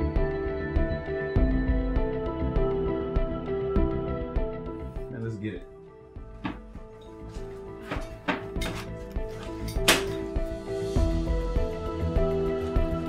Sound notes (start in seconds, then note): 0.3 soft music; 8.7 soft music; 10.0 clattering